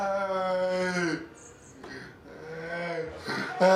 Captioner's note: moaning